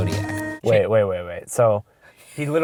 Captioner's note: voiceover